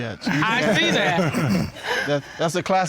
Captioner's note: laughing